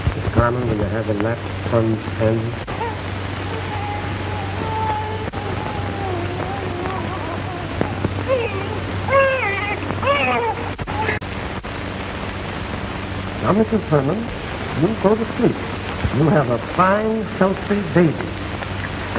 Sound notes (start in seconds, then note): 7.9 baby crying